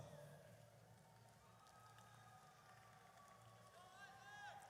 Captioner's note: audience cheers